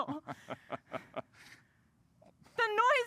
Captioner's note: laughs